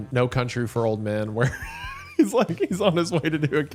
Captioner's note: laughing